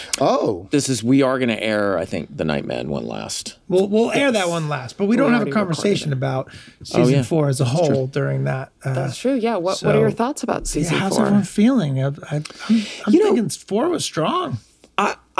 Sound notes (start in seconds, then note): none